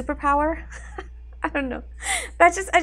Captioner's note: laughs